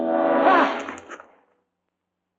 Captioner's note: gasps